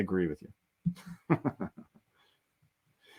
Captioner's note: chuckles